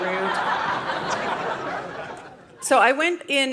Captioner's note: audience laughing